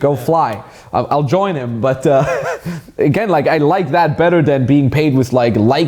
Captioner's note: laughs